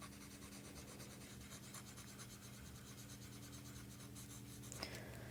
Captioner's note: pencil Writing